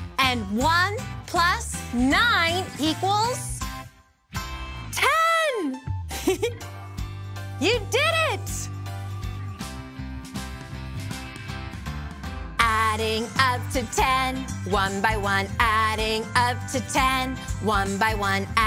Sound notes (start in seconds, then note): 6.2 laughing; 9.9 upbeat music